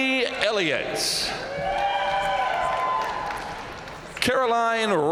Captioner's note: audience cheering and applauding